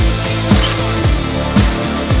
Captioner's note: photo Click